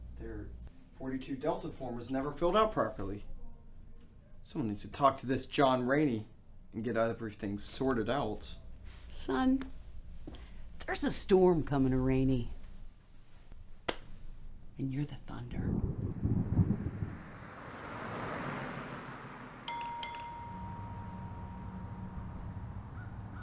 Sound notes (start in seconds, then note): 15.4 thunder rumbling; 19.6 gas station bell